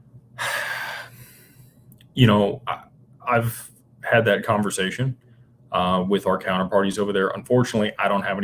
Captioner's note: sighs and gasps